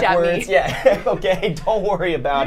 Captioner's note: laughs